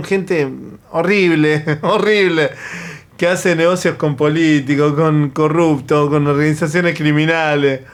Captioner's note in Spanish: risas